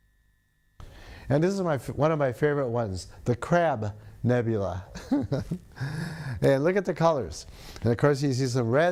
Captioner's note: laughs